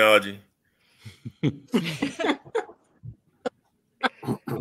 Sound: laughs

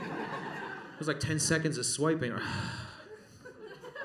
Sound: sigh

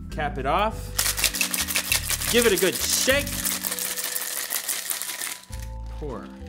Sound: ice rattling

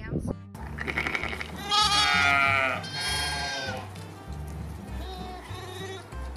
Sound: upbeat music; animals braying

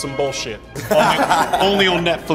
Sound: group laughing

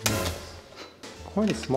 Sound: pot bangs

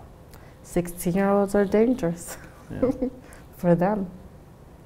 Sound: laughs

